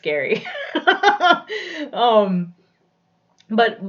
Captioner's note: laughs